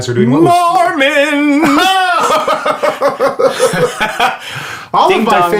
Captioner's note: laughs